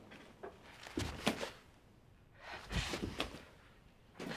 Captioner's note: feet shuffling